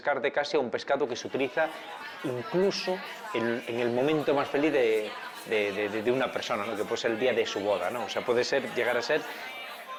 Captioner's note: bustling sounds of people in the restaurant